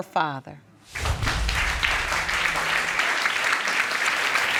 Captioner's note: audience clapping